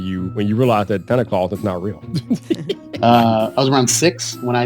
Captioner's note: laughing